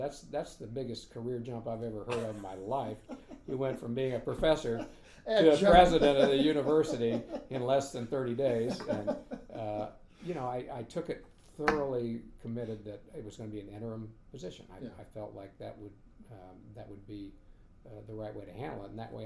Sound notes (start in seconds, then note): 9.2 laughing